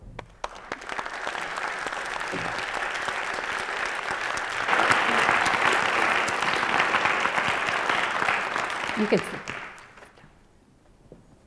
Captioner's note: applause